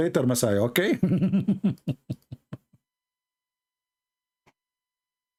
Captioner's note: Ketawa